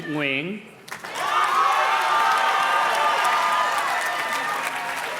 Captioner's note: audience cheers and claps